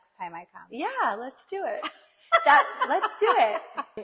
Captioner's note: laughs